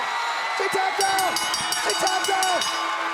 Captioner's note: crowd chatter; bell ringing